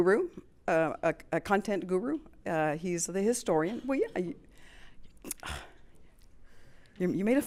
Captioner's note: sighs